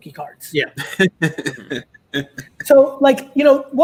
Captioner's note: laughs